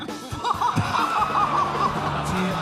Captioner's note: laughs